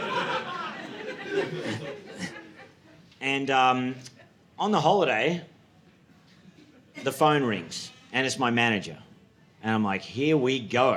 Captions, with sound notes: (audience laughing) And on the holiday, the phone rings and it's my manager. And I'm like, "Here we go.